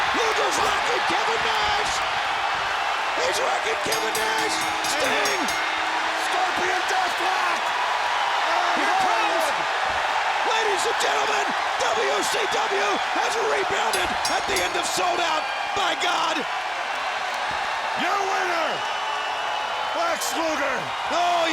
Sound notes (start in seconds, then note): 3.2 bell rings